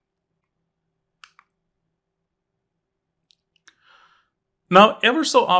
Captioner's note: remote clicking